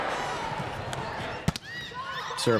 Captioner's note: players chatting